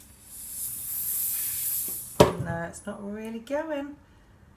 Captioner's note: air hissing